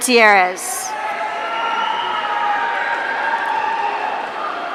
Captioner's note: audience cheering